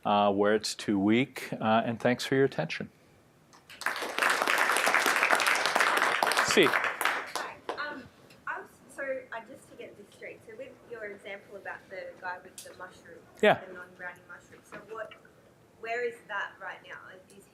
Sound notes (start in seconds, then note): 3.7 audience applauding